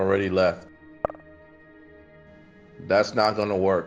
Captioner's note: message clicks